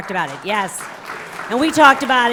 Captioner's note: applause